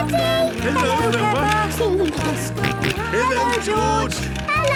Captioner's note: George giggling and snorting